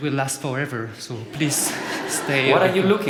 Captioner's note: laughter